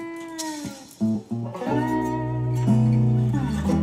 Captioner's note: tsk